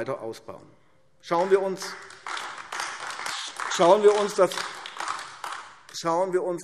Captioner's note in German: Beifall AfD